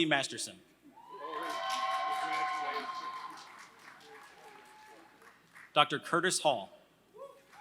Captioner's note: applause